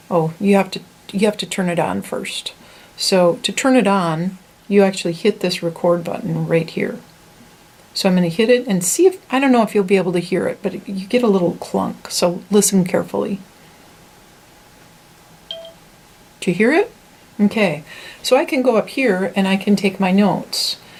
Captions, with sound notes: oh you have to turn it on first. So to turn it on, you actually hit this record button right here. So I'm going to hit it, and see if, I don't know if you're going to be able to hear it, but you get a little clunk, so listen carefully. (ding noise) Do you hear it? Okay, so I can go up here and I can take my notes.